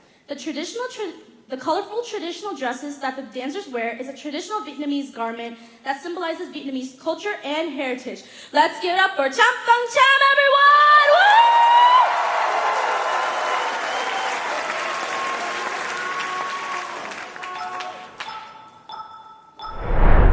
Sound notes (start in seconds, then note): 11.4 cheering; 11.8 applause; 12.2 cheering